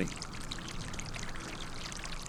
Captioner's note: splashing